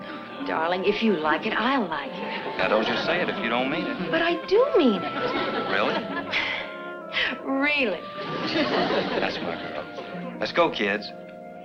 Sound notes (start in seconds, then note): 6.2 sighs